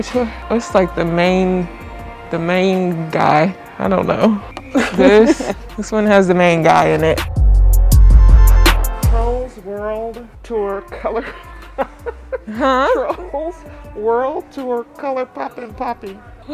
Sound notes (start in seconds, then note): 7.3 upbeat music; 10.9 laughing